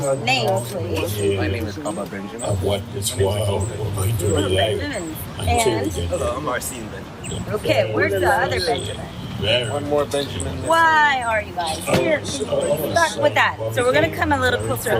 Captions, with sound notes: Name, please. >> My name is Bubba Benjamin. [ Chatter ] >> Ooh, Benjamins. And? >> Hello. I'm Marcene Benjamin. >> Okay. Where's the other Benjamin? >> One more Benjamin missing. >> Why are you guys here? Can you just start with that? So we're going to come a little closer